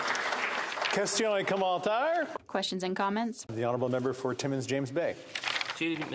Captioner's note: applause